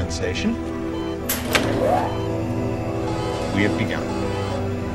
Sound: whirling machine

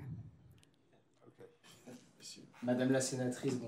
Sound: speaking french

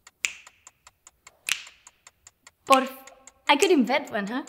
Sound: snapping

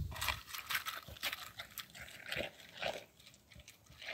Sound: crunching

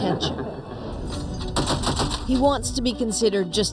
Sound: heavy machinegun fire

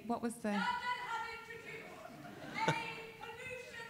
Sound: woman calling off mic

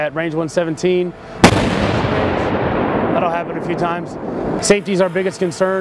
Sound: tank firing

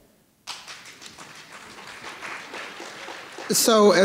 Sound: audience applauding

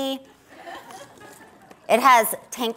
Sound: audience laughs

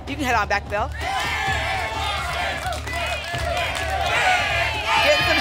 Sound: audience shouting letters

